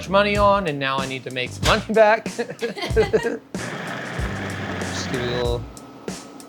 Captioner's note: laughing